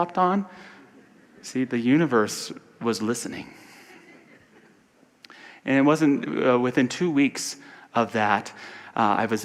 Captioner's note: audience laughter